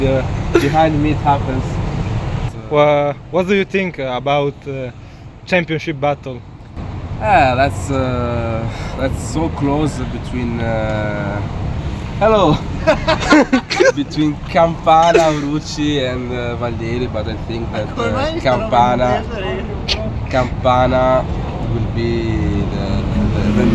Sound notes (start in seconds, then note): 12.5 laughter